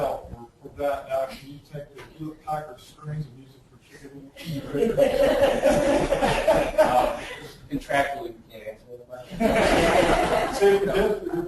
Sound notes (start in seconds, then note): 4.5 laughing; 7.6 distorted speech; 9.3 laughing